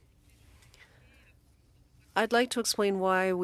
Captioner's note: speaking french